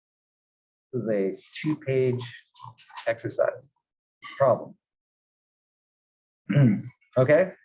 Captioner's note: cough